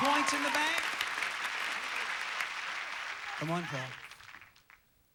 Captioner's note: audience applauding